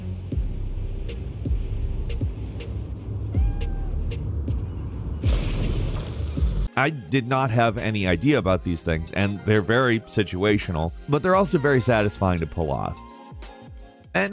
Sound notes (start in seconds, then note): 0.1 gentle hip-hop music; 3.4 caw meows; 5.2 water splashing